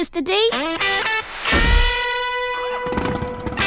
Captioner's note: revs engine